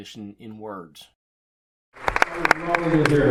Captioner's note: applause